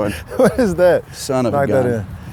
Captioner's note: laughs